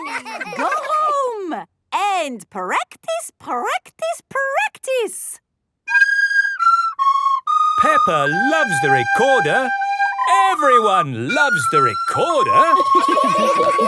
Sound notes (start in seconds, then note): 6.4 playing theme song; 12.4 laughter